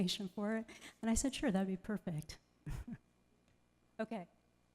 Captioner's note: laughs